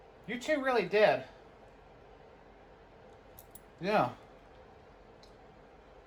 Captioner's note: none